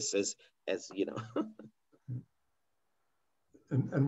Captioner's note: laughs